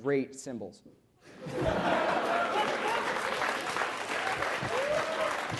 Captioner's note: applause